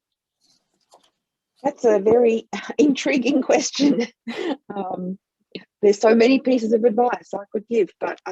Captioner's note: laughs